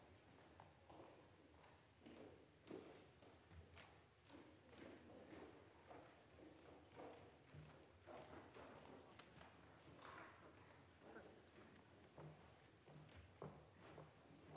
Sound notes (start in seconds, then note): none